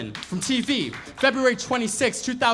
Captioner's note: audience members applaud